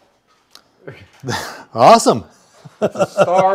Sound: laughs

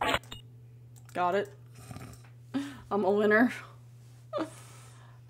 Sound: snorts

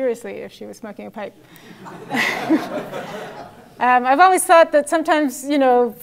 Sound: laugh

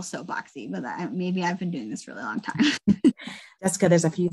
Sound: laughs

